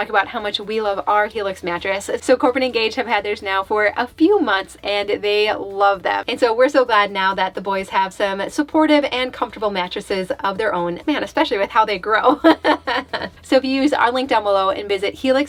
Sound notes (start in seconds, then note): 12.2 laughs